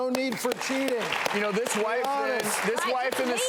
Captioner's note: clapping